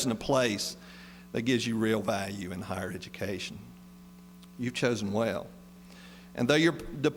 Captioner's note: none